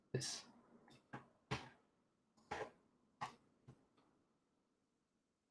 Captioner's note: keyboard clacking